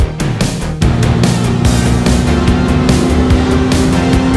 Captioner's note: engine revving